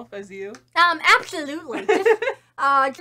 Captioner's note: laughs